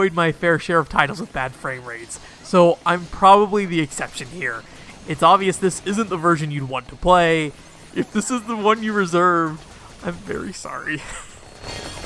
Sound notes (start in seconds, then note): 8.0 laughs a little bit